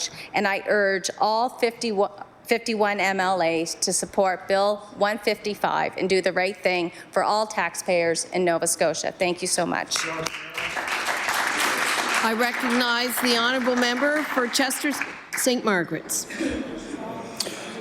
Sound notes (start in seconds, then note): 12.5 some Applause